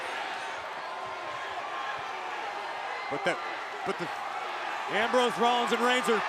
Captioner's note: applause